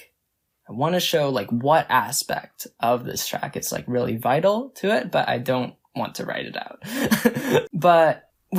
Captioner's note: laughs